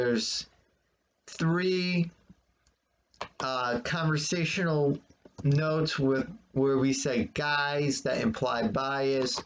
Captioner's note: click of trackpad